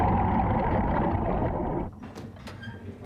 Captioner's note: thud sound